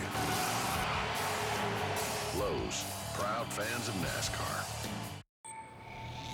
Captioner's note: tires screech, cheers and applause